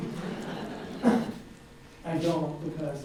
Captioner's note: audience laughs